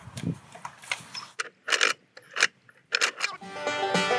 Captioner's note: cranking noise